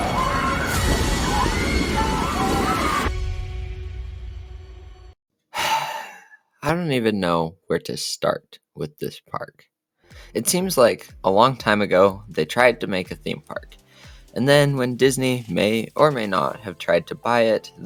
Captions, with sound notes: [sigh] I don’t even know where to start with this park. It seems like a long time ago they tried to make a theme park and then when Disney may or may not have tried to buy it